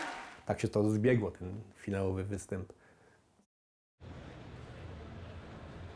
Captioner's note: speaks in foreign language